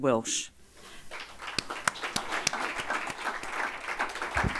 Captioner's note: audience applauding